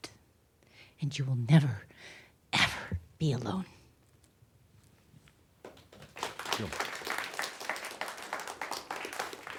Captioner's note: applause